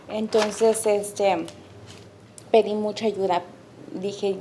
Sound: speaking Spanish

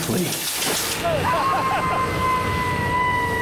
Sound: screaming

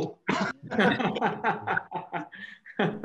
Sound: laughter

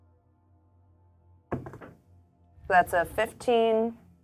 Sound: die thuds

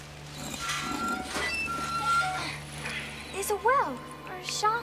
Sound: metallic creaking

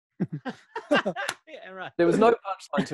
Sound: laughing

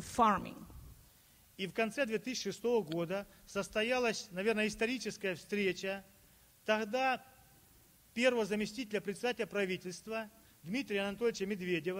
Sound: speaking Russian

